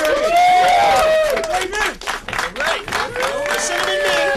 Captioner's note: cheering and applause